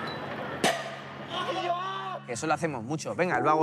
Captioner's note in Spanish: grita